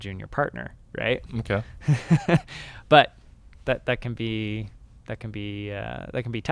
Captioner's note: laughs